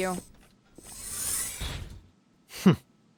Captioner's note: door slides closed